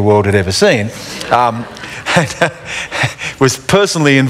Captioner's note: laughter